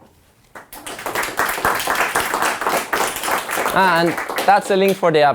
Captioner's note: audience applauds